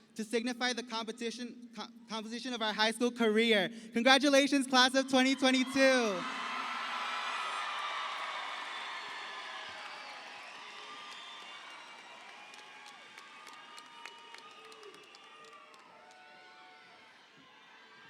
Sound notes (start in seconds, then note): 7.3 sustained cheering rings